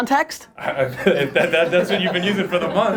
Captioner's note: laughter